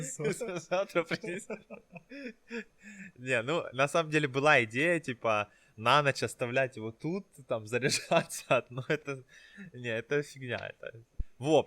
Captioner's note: laughing